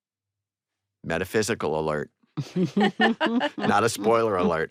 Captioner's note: all chuckle